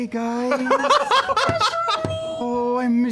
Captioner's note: laughter